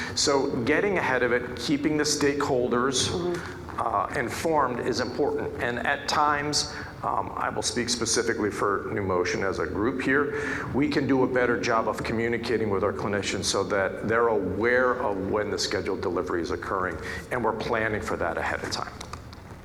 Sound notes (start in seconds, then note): none